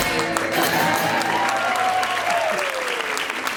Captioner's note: cheering and appluase